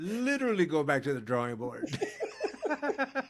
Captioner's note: laughing